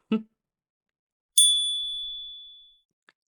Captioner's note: chime